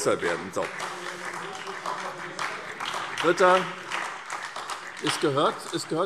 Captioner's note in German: Beifall SPD